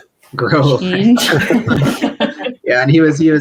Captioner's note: laughing